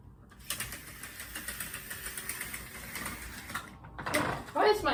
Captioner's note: closing blinds